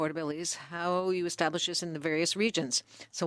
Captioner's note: speaking French